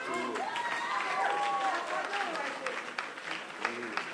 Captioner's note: applause